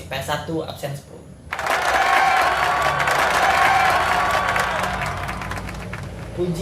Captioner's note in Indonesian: suara sorak-sorai dan tepuk tangan